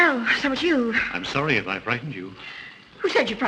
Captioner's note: gasps